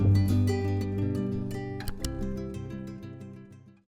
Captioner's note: computer mouse click